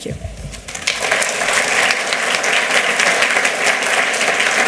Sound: applause

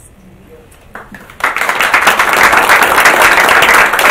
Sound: audience claps

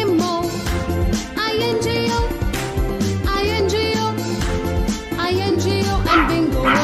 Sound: clap

